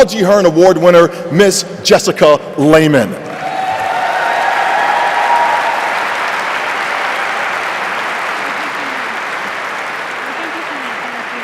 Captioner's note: applause and cheering